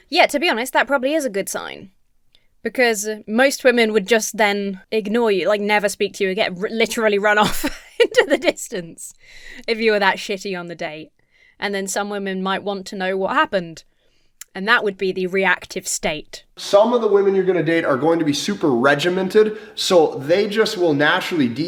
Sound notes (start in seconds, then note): 7.4 chuckles